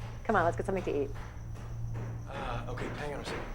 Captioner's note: hammering